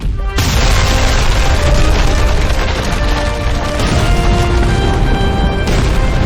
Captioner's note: grand orchestral music; explosions booming